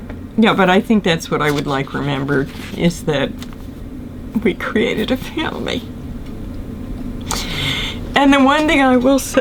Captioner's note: crying